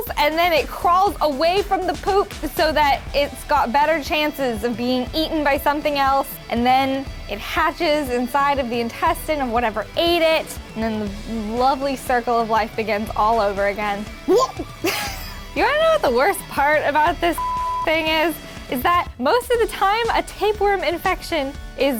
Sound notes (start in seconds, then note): 14.2 gagging